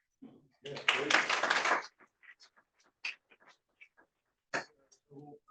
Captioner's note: applause